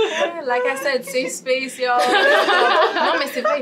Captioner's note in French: rires